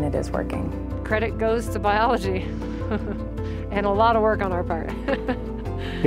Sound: laugh

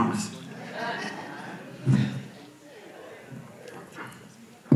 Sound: audience laughs

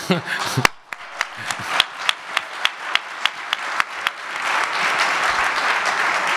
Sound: audience applause

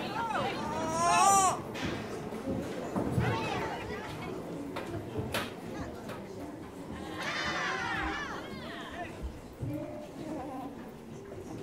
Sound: babies laughing

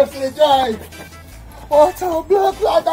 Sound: shouting

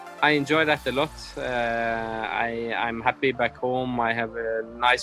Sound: none

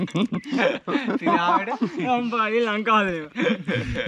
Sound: laughing

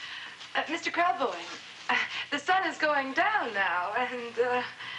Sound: sighs

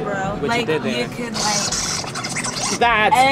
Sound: record scratches

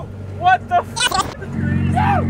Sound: beep

